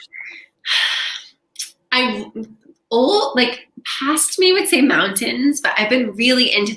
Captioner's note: sighs